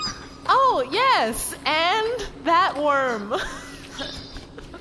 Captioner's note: there is a squeaking sound